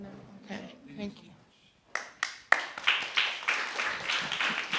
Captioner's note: audience applauding